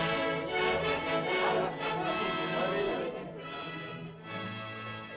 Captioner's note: indistinct caveman chatter; triumphant music